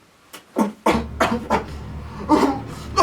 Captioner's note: choking